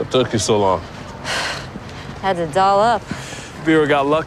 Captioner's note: sighs